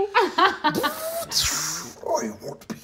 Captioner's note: imitates whizzing